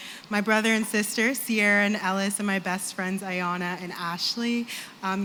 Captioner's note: none